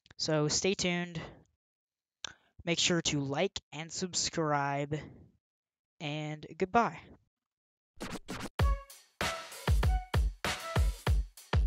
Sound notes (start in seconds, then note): 8.0 record scratches; 9.2 upbeat music playing